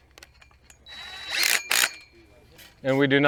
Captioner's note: drill buzzes